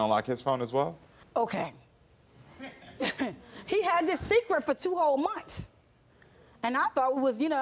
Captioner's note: laughs